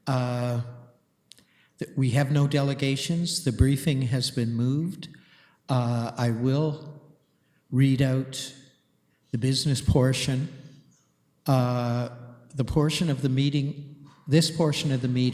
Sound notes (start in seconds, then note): none